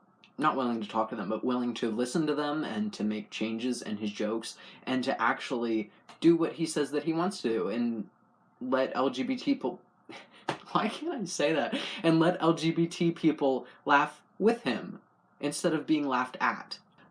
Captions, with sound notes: not willing to talk to them, willing to listen to them and to make changes in his jokes. And to actually do what he says he wants to do. And let LGBPeo- (laugh) Why can't I say that? And let LGBT people laugh with him instead of being laughed at.